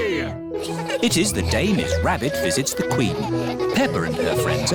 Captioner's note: all giggling